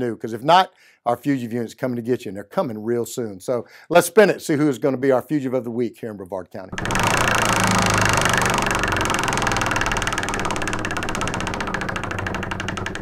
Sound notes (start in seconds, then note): 6.7 wheel clicking